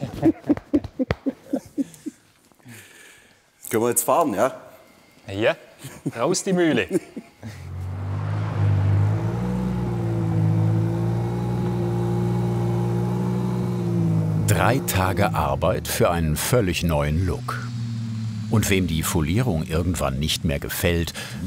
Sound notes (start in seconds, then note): 0.0 both laugh; 6.6 laughter; 9.2 slow engine rumble